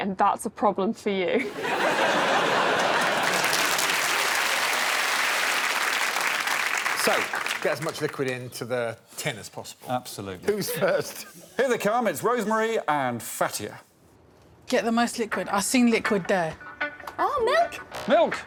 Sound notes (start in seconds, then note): 3.1 audience laughs; 4.9 audience applauds